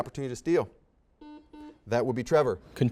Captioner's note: series of beeps